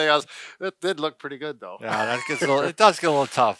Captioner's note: chuckles